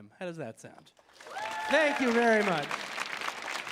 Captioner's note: audience applauding; audience cheering